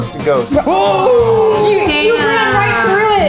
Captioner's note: yelling